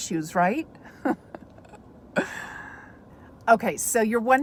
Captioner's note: chuckles